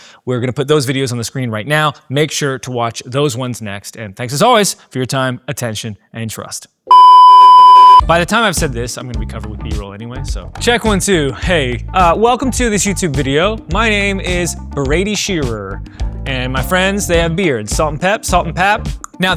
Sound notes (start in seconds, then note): 6.9 loud beeping